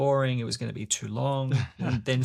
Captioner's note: laughs